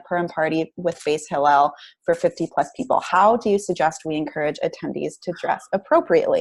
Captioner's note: Hebrew